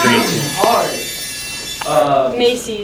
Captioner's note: magical sound effect